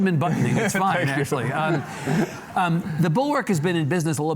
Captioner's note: laughs